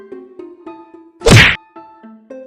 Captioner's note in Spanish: Golpe en la cabeza